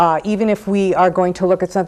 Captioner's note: none